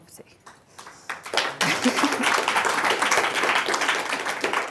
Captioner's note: applause